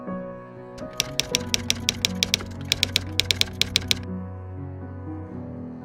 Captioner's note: typewriter keys clicking